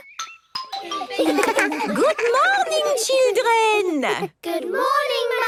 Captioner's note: laughter